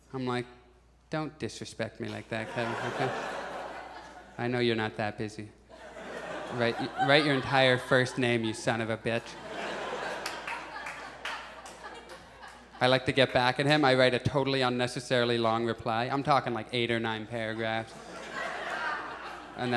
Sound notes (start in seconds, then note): 2.3 audience chuckles; 5.5 audience laughs; 9.4 audience chuckles; 17.5 audience laughs